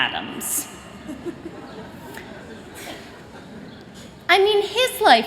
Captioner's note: chuckling